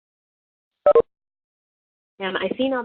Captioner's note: beeping